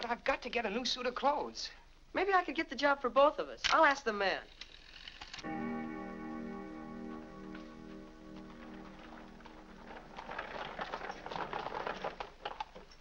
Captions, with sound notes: - But I've got to get a new suit of clothes! - Maybe I could get the job for both of us. I'll ask the man. (clock chimes) (hooves trotting)